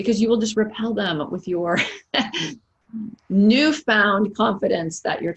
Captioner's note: laughs